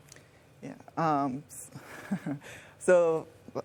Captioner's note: laughs